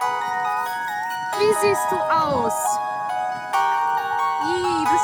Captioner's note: joyful music plays; in German